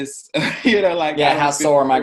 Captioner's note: laughs